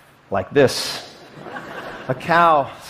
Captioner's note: laughter